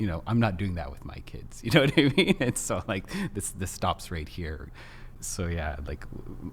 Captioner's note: laughs